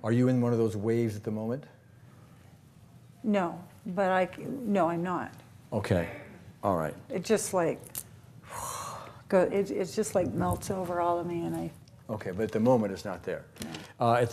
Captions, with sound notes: - Are you in one of those waves at the moment? - No, but I-- no I'm not. - Okay, alright. - It just like (sighs heavily) It just like melts all over me and I-- - Okay but at the moment it's not there. - No.